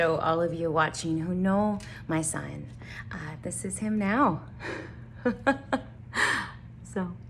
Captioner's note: laughs